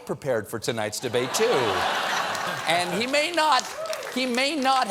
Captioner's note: laughter